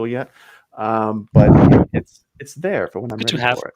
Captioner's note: chuckles